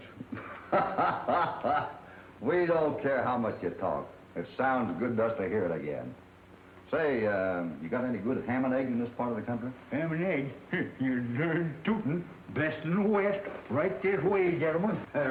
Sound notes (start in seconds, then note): 0.0 laughs